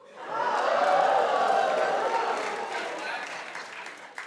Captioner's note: audience cheering